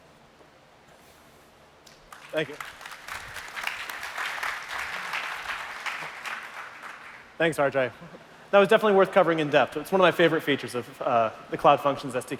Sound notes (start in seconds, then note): 1.8 applause